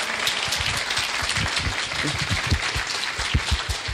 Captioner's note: clapping